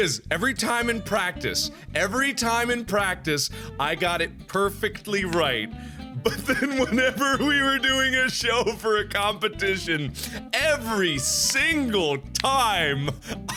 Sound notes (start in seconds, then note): 6.2 laughing